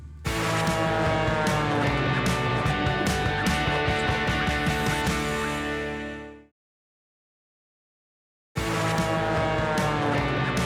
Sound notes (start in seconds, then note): 0.3 upbeat music; 0.6 plane engine